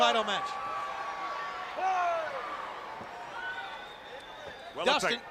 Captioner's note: crowd cheering